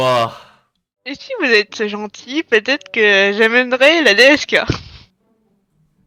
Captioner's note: imitating Snagor